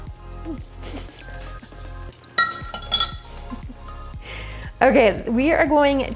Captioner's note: laughs